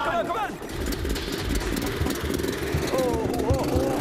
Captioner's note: engine sputtering; engine whirring